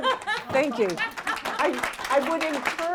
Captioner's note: applause